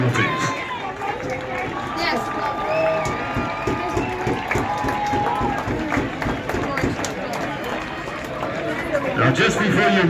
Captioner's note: even more cheering